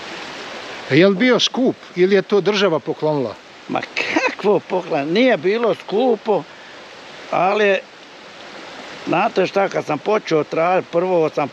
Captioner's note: laughs